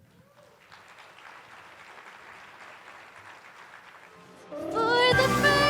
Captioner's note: attendees applauding